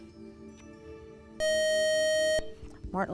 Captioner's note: buzzer